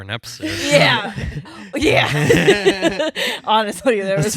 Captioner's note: laughing